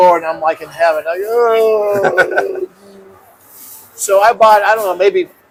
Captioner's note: laughs